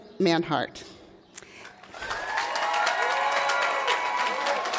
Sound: applause

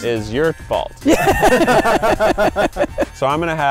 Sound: laughing

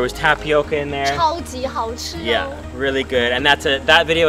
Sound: speaking foreign language

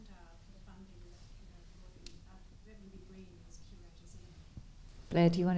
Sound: speaks faintly

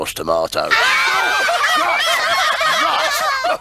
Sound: laughing loudly

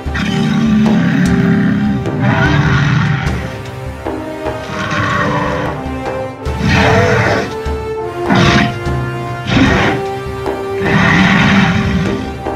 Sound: Spinosaurus growling

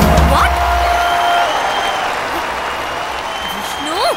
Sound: applause

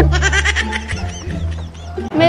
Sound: laughing

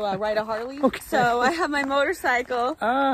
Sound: laughs

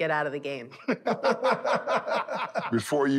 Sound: laughter

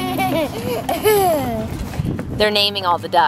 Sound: laughs

